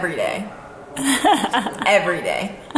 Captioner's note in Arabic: يضحك كريستال